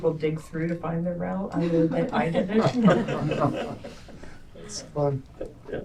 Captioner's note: laughter